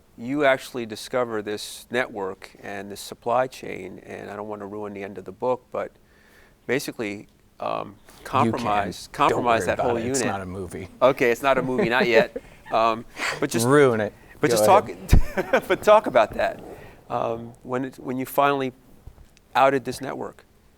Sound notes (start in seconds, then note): 14.3 laughing